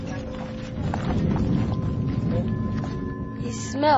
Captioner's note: foreign language